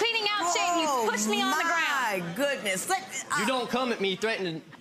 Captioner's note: audience groaning